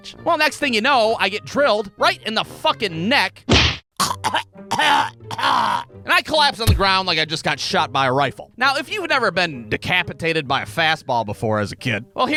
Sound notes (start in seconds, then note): 3.4 thwack!; 4.6 choking, coughing